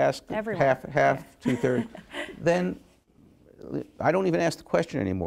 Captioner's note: chuckles